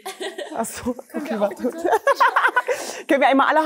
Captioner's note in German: Gelächter